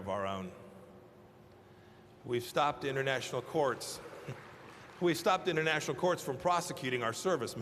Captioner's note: applause